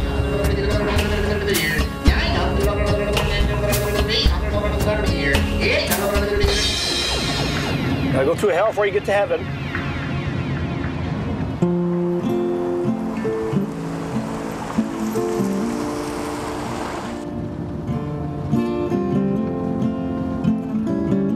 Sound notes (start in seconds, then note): 11.6 bright music; 11.6 cars whooshing